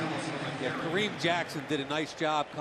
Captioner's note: pa announcement